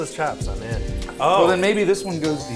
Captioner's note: exclaiming